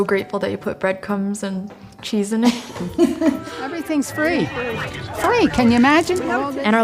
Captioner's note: laughs